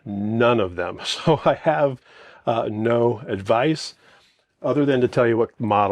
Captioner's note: chuckles